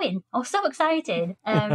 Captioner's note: laughter